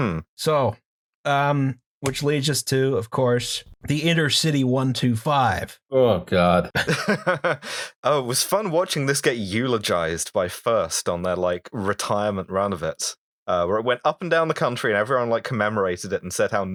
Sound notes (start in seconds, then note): 6.7 laughter